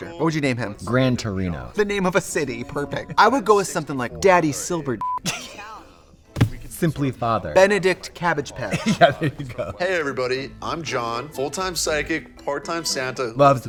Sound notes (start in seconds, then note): 5.0 beep; 5.2 Katya laughs